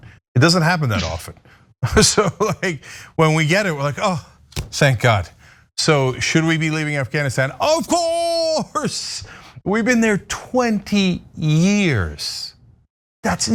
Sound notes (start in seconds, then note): 2.1 laugh